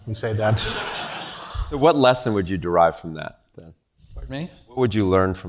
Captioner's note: laugh